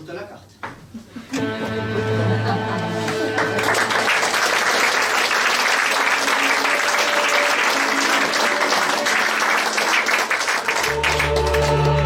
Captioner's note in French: applaudissements